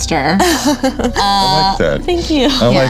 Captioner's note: laughing